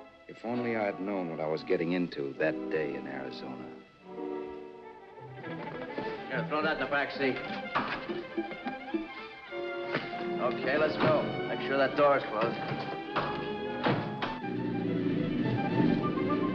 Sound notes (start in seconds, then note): 12.3 door closes; 12.5 lock clacks